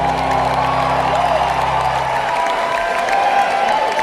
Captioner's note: cheering